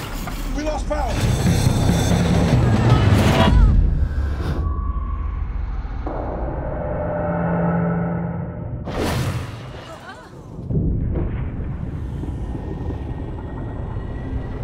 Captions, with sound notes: - We lost power. (A-Train whooshing)